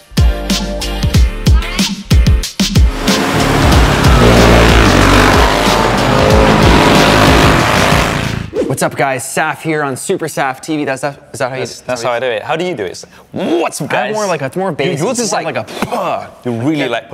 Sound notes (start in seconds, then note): 2.8 ATV engines roaring